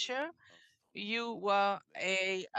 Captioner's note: speaking French